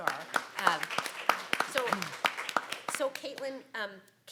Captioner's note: claps